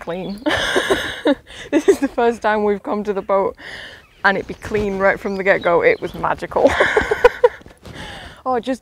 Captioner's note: laughs; laughs